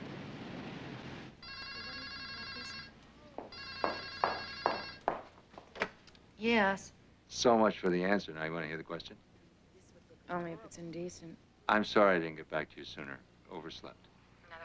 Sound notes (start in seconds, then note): 1.4 telephone rings